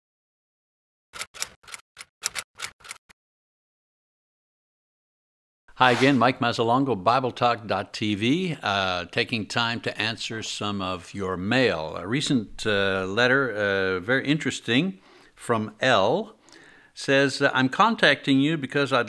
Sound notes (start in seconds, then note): 1.1 typewriter keys clanking